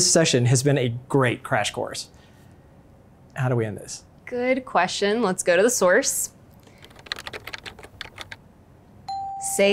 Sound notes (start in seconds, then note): 6.6 typing; 9.0 ding